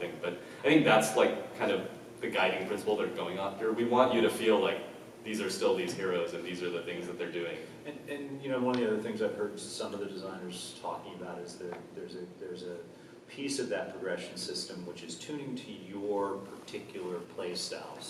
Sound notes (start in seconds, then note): none